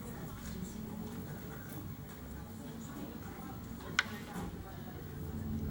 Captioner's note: indistinct student chatter